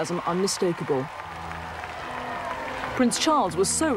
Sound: crowd cheering

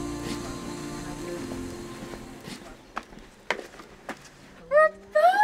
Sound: footsteps plodding; laughing

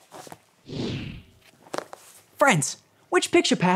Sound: picture passes swooshes

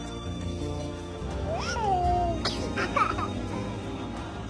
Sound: baby giggle

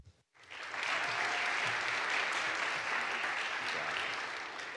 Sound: audience applauds

